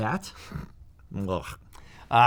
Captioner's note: sound of disgust